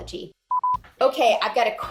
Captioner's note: screen beeping